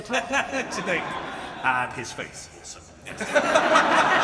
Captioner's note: laughs; audience laughing